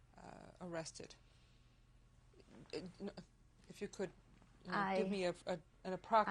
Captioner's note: pauses for 3 seconds